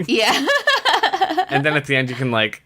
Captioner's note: laughs